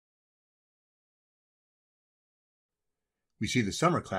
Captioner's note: silence